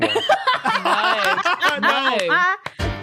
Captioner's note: laugh